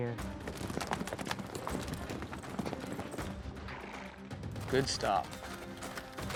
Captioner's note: hoof beats